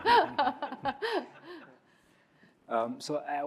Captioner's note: laughs